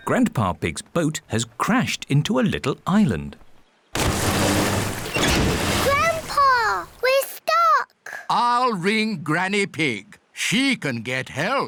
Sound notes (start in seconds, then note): 4.0 rumbling